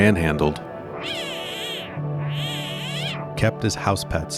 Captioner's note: baby tiger cries